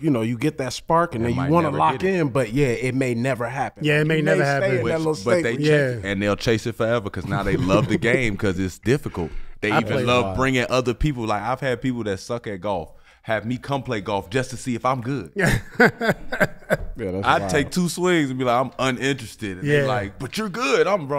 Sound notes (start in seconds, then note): 15.6 Metta laughs